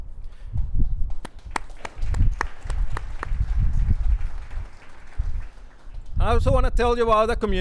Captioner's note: claps